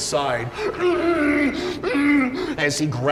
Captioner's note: panicked moaning